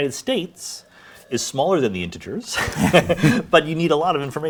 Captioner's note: laughs